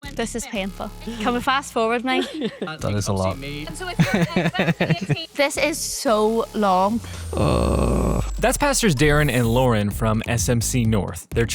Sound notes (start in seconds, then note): 3.9 laughing